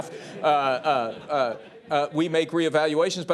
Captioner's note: laughter